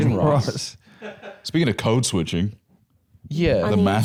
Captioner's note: laughing